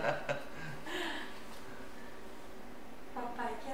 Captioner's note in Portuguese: risos